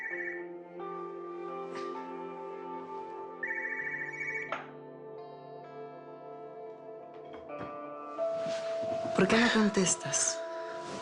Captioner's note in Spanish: Suena el celular